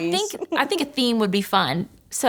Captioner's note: laughing